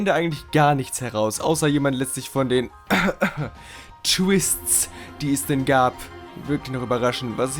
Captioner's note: cough